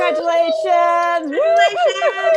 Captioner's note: cheering